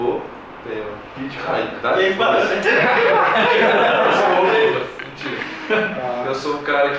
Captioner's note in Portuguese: risadas